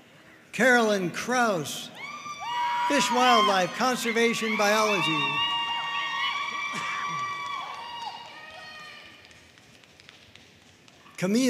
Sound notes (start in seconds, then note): 2.2 audience cheering and applauding